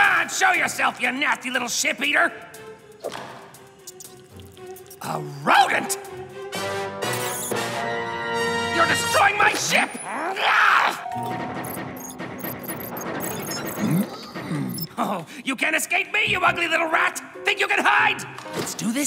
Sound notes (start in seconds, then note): 3.8 squeaking and munching; 10.7 grunts; 11.3 shooting